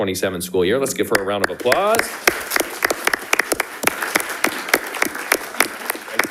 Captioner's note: audience applauding